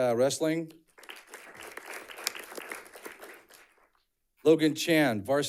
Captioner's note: audience clapping